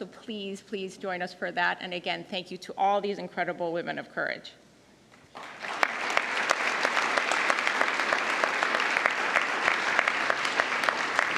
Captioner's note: applause